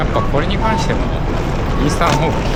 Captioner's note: wind noise audio